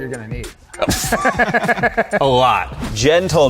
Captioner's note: laughs